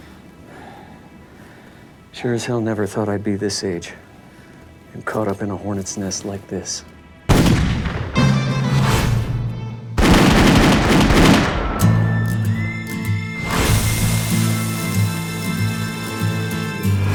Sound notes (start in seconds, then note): 7.3 gun fires; 8.3 dramatic western music